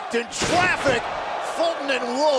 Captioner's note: crowd cheering